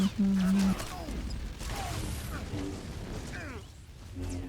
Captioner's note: gunshots